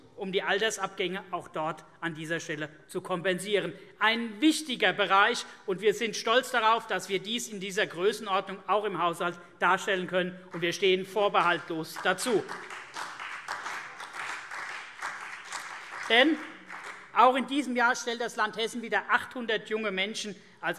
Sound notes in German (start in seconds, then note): 11.9 Vereinzelter Beifall CDU und BÜNDNIS 90/DIE GRÜNEN